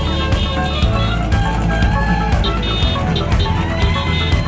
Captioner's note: musical car horn; crowd cheering